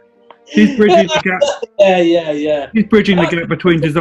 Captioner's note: laughing